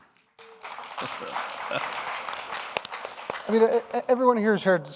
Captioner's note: audience applauds